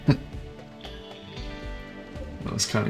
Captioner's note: laughs